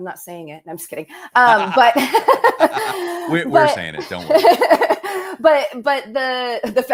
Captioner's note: laughter